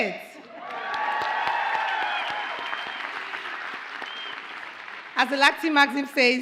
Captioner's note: audience cheers and applauds